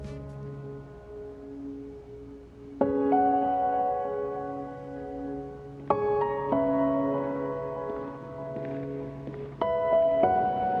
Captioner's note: footsteps